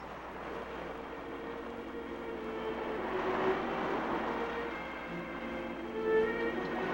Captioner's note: waves crashing; dramatic orchestral music